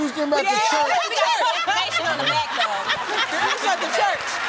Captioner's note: laughter